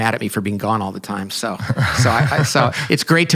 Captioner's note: laughing